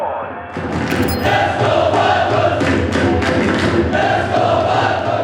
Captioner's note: loud rhythmic banging; crowd chanting